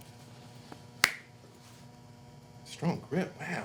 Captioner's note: slapping palms